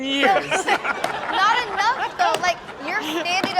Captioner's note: everyone laughs